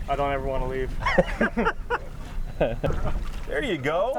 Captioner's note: laughing